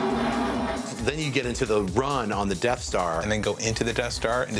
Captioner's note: blast sound effect